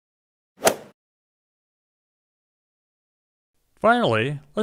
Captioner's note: golf swing sound effect